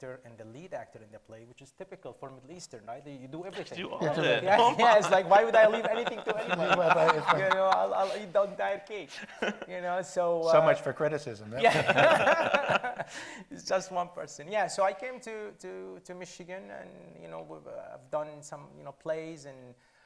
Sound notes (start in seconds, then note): 11.6 panel laughs